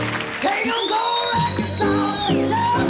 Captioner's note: fast paced piano chords; audience whistling; audience clapping with song